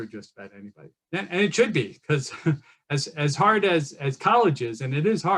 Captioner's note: chuckles